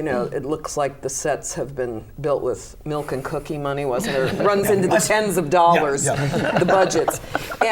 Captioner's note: laughter